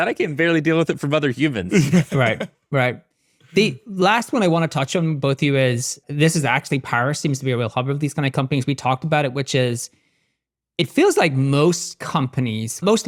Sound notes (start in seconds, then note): 1.6 laughing